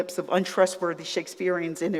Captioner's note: none